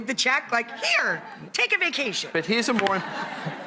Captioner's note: audience laughing